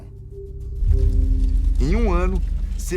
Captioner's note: flames crackling